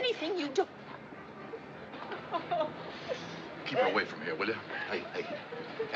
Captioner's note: crying